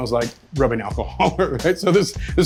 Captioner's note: laughs